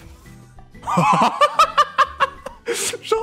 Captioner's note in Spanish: ríete